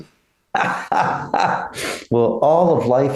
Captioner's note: laughing